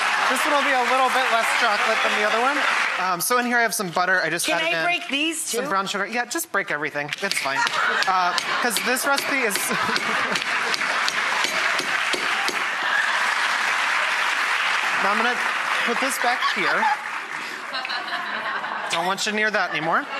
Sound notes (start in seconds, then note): 0.0 audience laughter and clapping; 8.6 audience laughter; 11.3 audience laughter and clapping; 11.4 pounding noise